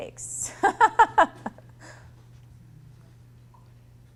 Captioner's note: laughs